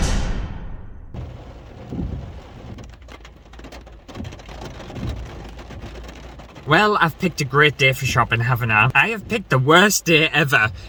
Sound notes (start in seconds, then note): 1.1 windscreen wipers & rain hitting glass